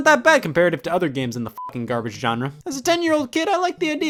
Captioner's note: beep